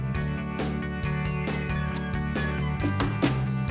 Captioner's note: hinges creaking